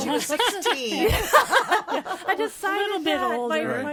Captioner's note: all laughing